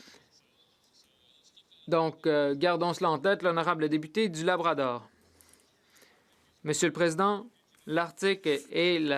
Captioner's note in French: voix de l'interprète